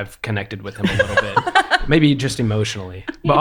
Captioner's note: laughing